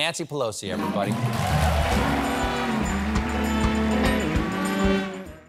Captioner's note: applause